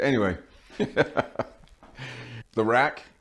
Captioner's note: laughing